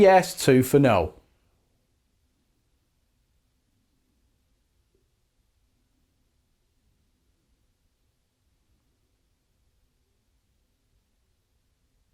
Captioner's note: silence